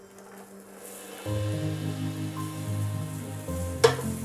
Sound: sizzling

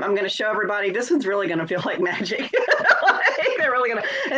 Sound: laughs

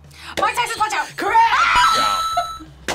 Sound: screams; buzzer rings

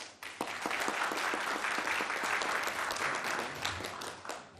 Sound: audience clapping

